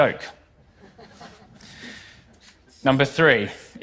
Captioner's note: laughter